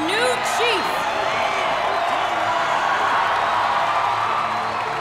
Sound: cheering

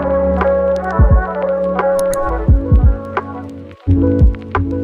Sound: clicking sound

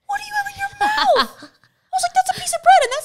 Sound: laughs

